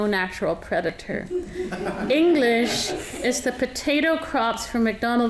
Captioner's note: audience laughing